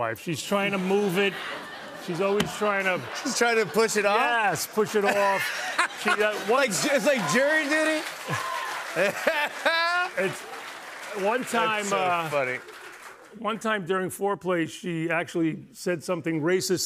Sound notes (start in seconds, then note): 0.6 laughter; 7.9 cheers and applause